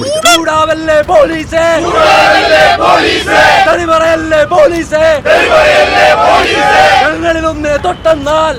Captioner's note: protesters Sloganeering